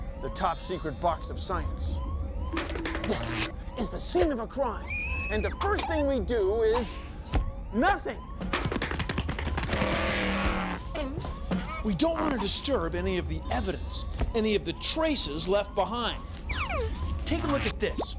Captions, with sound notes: LIKE THE "TOP SECRET" BOX OF SCIENCE. THIS IS THE SCENE OF A CRIME, AND THE FIRST THING WE DO IS... NOTHING. [ MOTORCYCLE ENGINE ROARS ] WE DON'T WANT TO DISTURB ANY OF THE EVIDENCE -- ANY OF THE TRACES LEFT BEHIND. TAKE A LOOK AT THIS.